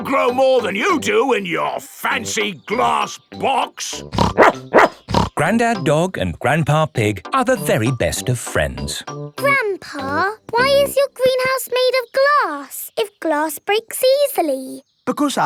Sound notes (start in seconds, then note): 4.1 snorts; 4.2 barks